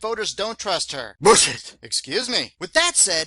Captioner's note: sound of a sneeze